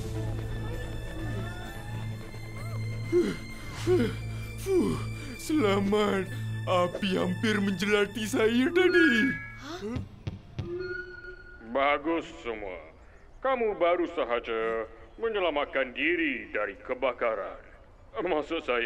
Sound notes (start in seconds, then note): 2.2 deep panting; 9.8 tapping on microphone